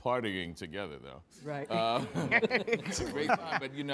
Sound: laughs

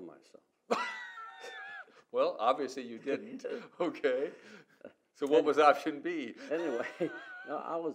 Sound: laughs

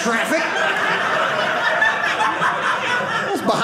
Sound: audience laughing

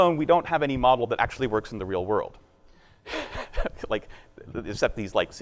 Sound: laughing

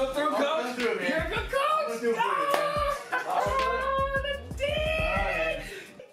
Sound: laughs

